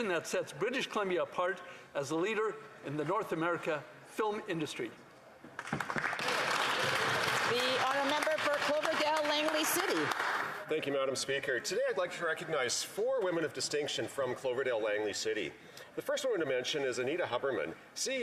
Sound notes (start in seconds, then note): 9.4 some Applause